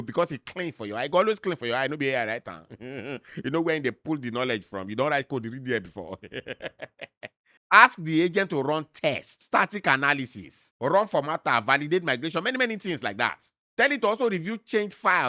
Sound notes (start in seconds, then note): 2.9 chuckles; 6.0 laughs